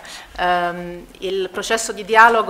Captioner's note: in Italian